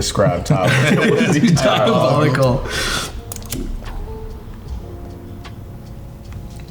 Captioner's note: all laughing